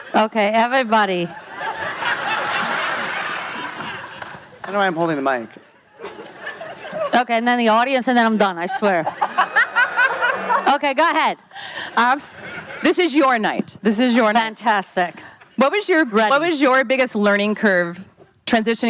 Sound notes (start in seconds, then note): 1.2 audience laughs; 6.0 audience laughs; 8.7 laughs loudly